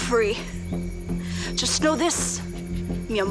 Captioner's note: speaking Spanish